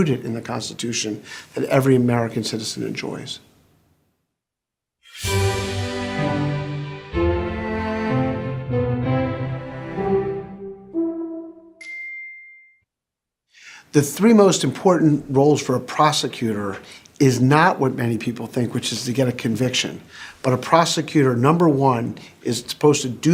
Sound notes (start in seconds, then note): 5.1 classical music; 5.7 chime